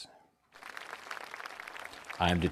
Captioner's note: crowd applauding